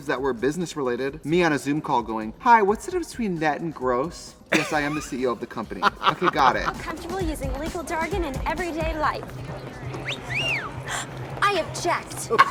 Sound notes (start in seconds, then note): 10.0 man whistles